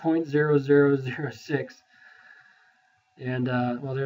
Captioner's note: chuckles